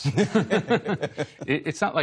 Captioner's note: laughter